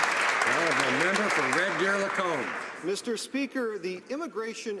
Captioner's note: some Applause